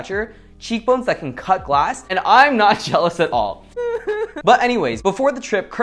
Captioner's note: cRyInG iNtEnSiFieS